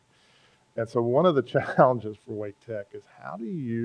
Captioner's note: laughs